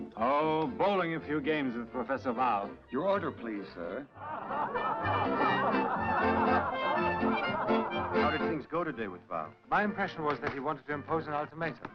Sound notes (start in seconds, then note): 4.9 all chattering; 4.9 lively music